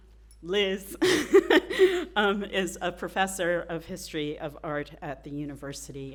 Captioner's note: laughs